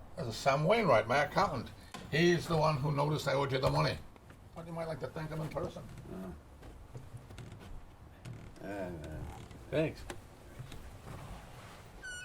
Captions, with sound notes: THIS IS SAM WAINWRIGHT, MY ACCOUNTANT. HE'S THE ONE WHO NOTICED I OWED YOU THE MONEY. THOUGHT YOU MIGHT LIKE TO THANK HIM IN PERSON. [ GRUMBLES ] THANKS.